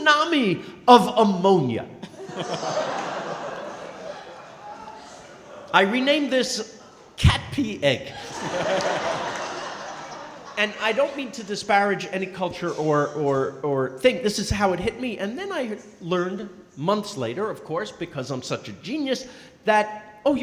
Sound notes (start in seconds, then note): 2.0 crowd laughing; 8.1 & crowd laughing